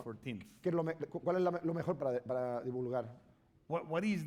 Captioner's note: speaking spanish